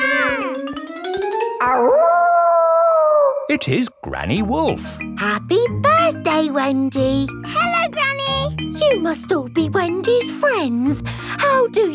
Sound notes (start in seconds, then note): 0.0 kids yelling; 1.6 howling